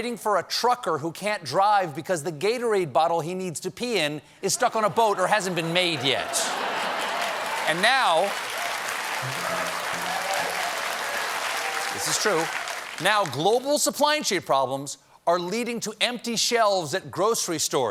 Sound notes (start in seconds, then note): 5.0 laughter; 5.8 applause